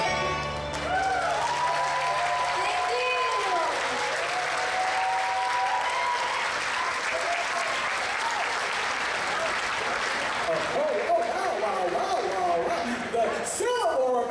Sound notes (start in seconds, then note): 0.1 applause and cheers